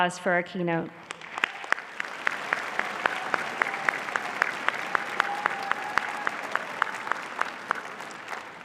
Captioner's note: applause